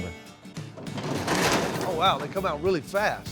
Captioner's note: apples tumbling